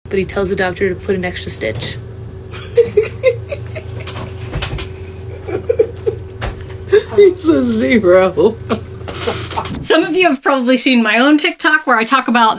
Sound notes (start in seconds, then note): 2.5 laughs